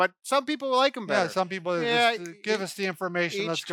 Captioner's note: snapping